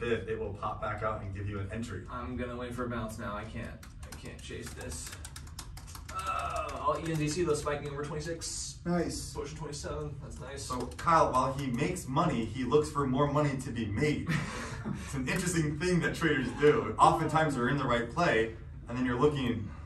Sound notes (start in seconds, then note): 6.2 groaning; 14.2 laughing